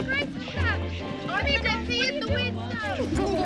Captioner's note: giggling